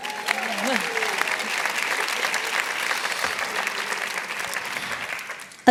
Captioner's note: applause